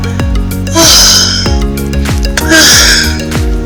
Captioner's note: moaning